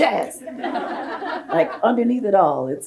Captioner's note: audience laughs